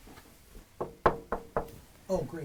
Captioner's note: Nurse Freeman knocks on door